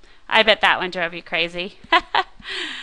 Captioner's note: chuckles